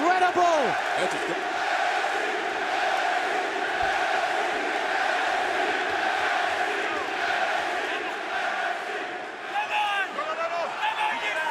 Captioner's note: crowd cheering